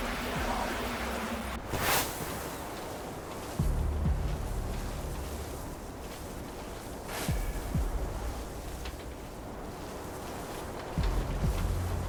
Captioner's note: wind blowing; wind blowing